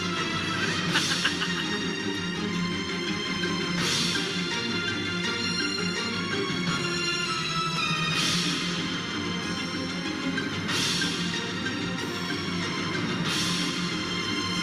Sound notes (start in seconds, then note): 0.5 laughing; 2.5 tense music